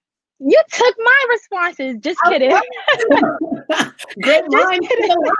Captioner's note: laughing